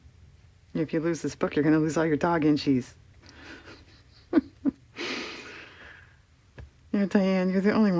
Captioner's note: laughs